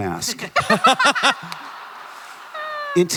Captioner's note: Ridley et al laugh